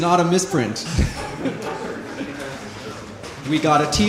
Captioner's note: laughter